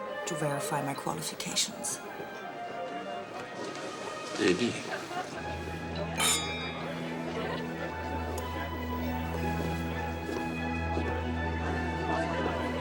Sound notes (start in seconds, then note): 6.1 clink